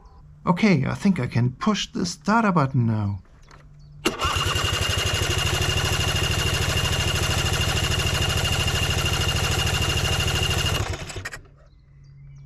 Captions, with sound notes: okay, I think I can push the starter button now! [Engine Cranking Sound]